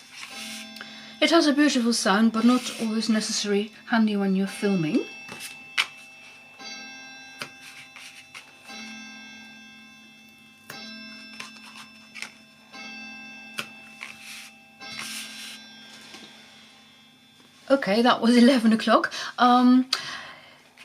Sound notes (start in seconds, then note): 5.1 clock finishes striking